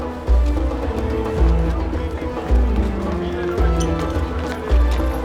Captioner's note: indistinct chatter